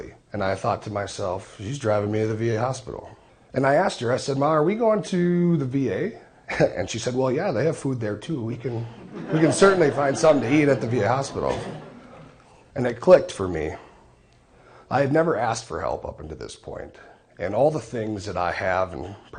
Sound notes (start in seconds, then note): 10.6 laughing